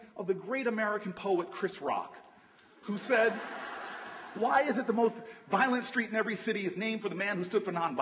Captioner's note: laughter